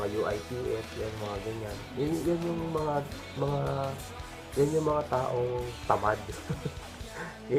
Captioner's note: giggles